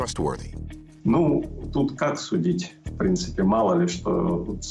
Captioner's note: speaking Russian